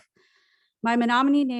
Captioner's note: foreign language